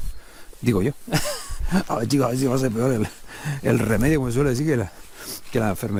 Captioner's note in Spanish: risas